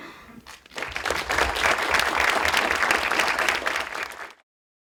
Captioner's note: applause